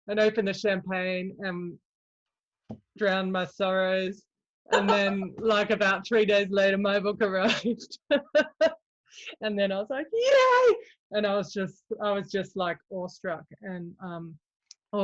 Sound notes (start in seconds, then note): 7.6 laughs; 10.4 exclaims